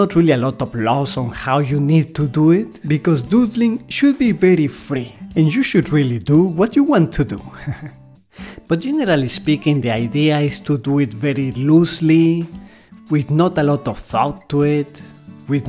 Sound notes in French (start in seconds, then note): 7.5 rires